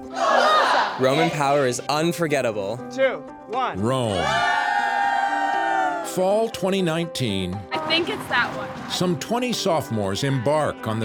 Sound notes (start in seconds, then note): 0.3 speaking foreign language; 4.1 all screaming